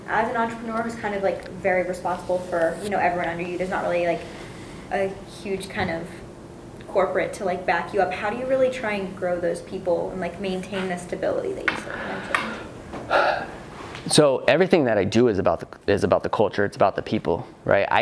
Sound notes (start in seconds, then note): 12.3 voice fades; 13.0 sighs